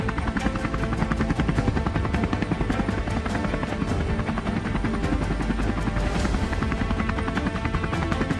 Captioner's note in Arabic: شفرات طائرات الهليكوبتر تدور